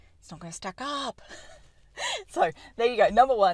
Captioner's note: laughter